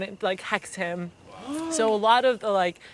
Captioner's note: gasps